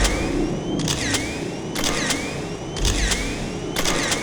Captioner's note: rapid camera flashes